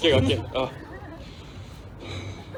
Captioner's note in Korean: 한숨